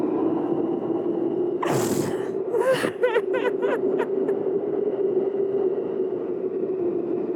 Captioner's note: sobbing